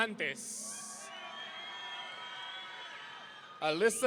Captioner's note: audience cheering